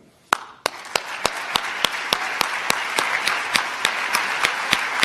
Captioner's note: applause